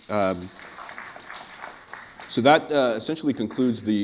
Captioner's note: applause